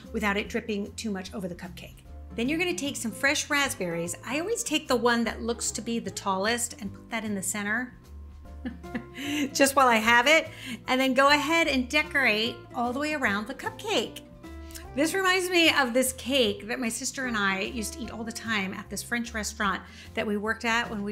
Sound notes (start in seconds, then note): 8.6 chuckles